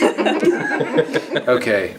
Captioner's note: laughing